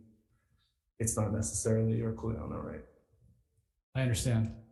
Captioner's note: speaking foreign language